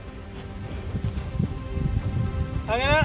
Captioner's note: wind blowing